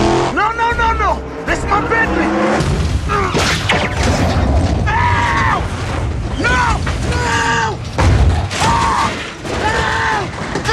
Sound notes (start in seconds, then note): 4.7 yelling; 8.5 screaming